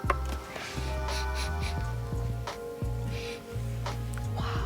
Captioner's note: Xbox dinging; sniffing